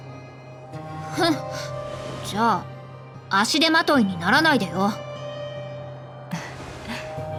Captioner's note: sigh